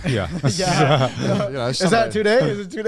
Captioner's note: men chuckle